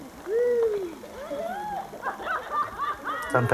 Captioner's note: villagers laughing